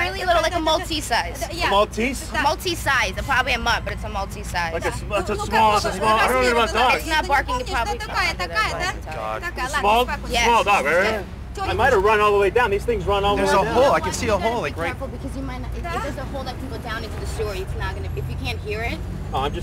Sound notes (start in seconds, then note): 9.0 speaking in Russian